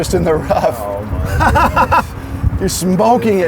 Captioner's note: laughs